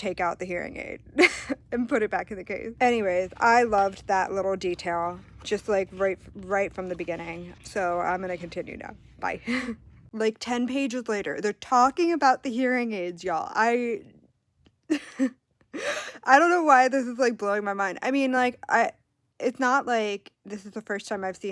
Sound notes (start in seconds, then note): 15.3 laughs